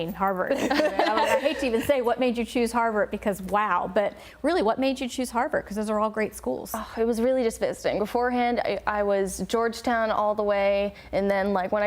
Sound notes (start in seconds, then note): 0.5 laughter